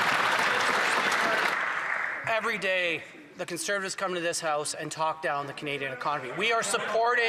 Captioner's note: some Applause